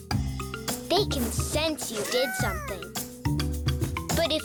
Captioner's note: Earth giggles squeakily